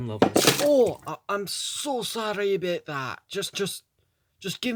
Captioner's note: coffee cup drops